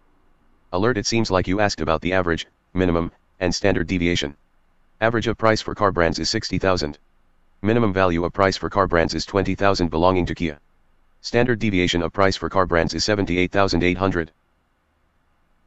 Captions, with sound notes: [Screen Reader Speaking] Alert. It seems like you asked about the average, minimum, and standard deviation. [Screen Reader Speaking] Average for car brands is 60,000. [Screen Reader Speaking] Minimum value of price for car brands is 20,000 belonging to Kia. [Screen Reader Speaking] Standard deviation of price for car brands is 78,800.